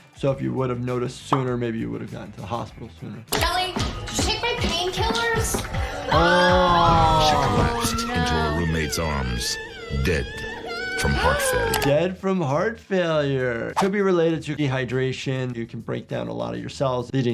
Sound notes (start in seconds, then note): 5.8 women screaming